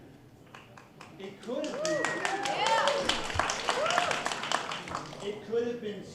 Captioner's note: applause